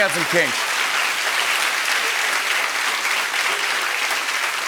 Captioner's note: applause